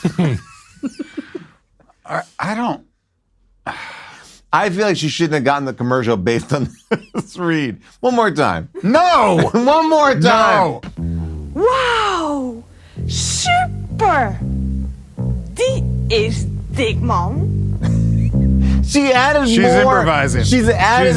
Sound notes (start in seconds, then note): 0.0 laugh; 3.6 sighs; 17.8 laughs